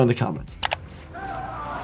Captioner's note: screen clicking; characters shouting